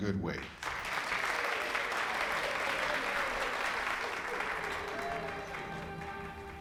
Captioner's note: applauding and cheering